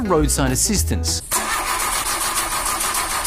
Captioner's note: car struggles